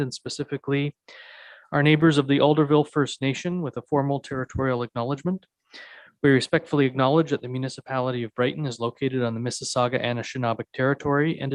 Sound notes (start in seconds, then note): none